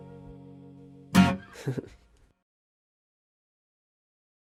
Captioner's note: laughs